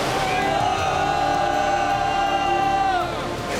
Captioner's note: students cheer